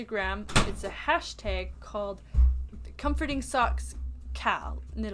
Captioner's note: door-closes